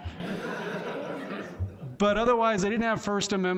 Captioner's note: laughing